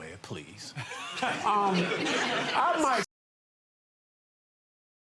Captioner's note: audience laughs